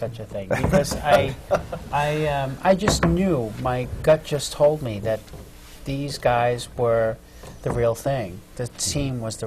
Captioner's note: laughs